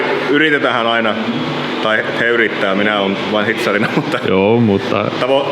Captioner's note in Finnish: naurahtaa